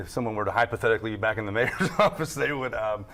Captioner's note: laughs